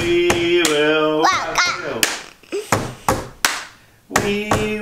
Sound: babbling

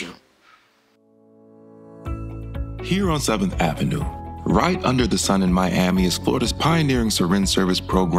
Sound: voiceover

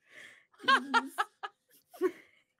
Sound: laughs

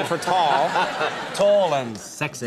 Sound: laughter

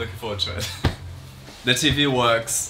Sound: laughs

